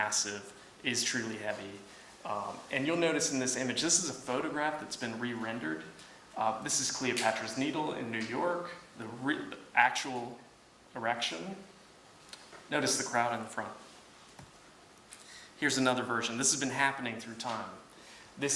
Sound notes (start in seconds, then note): none